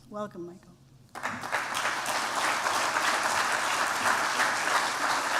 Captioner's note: applause